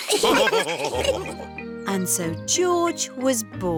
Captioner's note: laughs; all laughing